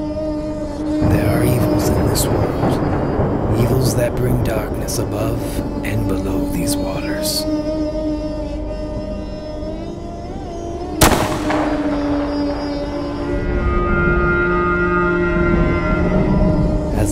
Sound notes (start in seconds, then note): 11.0 gun shot sound; 13.5 whale cry echoing; 15.4 thunder crashing